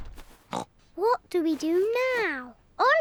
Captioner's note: oinks